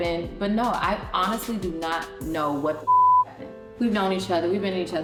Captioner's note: beep